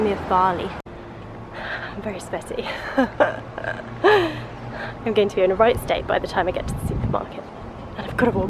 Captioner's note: laughs